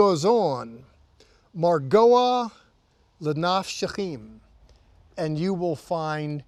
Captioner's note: speaking in Hebrew